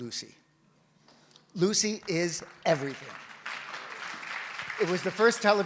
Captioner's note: audience applauds